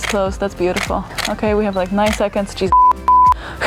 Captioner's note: beep